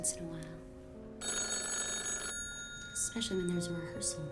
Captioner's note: phone ringing